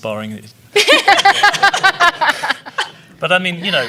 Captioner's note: laughing